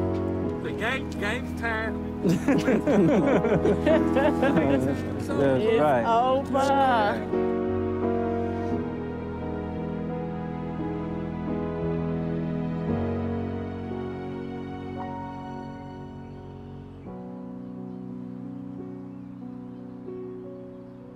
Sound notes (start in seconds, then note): 0.2 gentle music continues; 2.2 group chatting; 5.5 gentle music continues; 12.4 gentle music continues; 17.9 gentle music fades